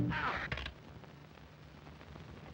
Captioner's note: bones crack